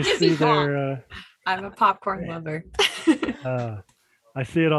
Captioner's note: laughs